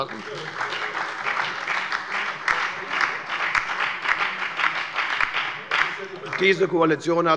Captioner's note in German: Beifall bei der FDP und bei der SPD